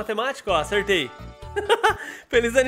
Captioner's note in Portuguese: risos